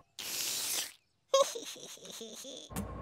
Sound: giggling

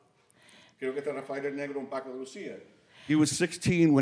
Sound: speaking Spanish

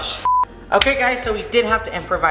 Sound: beep

